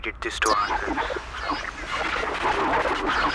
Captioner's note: tape recorder glitches